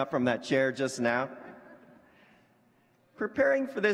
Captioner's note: laughter